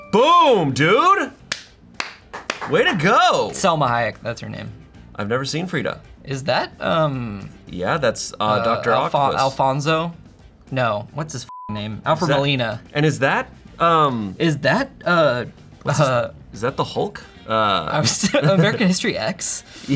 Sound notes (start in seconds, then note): 11.5 beep